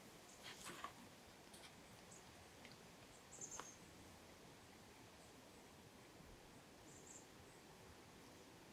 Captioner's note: birds continuing